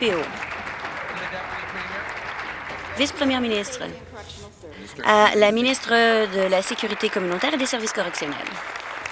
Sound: some Applause

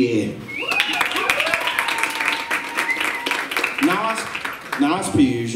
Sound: applause

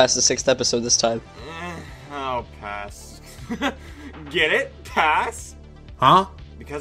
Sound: laughs

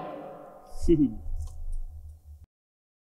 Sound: chuckles

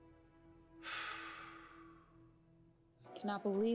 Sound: sighing

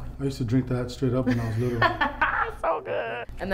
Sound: laughing

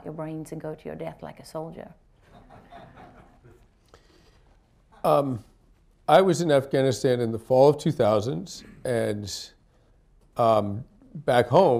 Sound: laughter

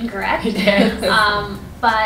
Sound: laughter

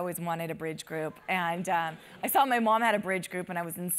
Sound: laugh

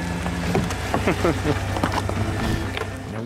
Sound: laughter

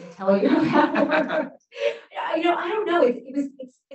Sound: laughs

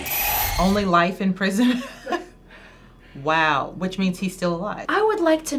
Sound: laughs

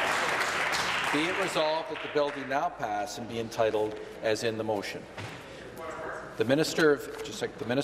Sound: applause

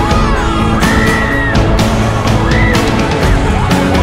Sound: screaming

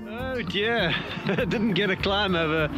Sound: laughs

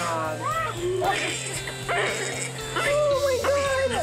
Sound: baby crying

